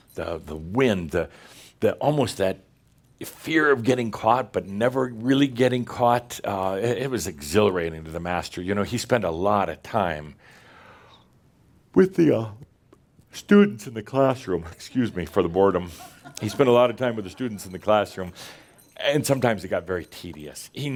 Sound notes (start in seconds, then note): 11.9 Adamus yawns; 15.8 a few chuckles